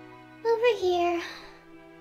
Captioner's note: sigh